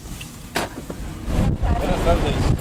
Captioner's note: car door slamming